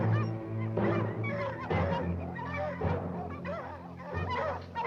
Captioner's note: dogs barking continues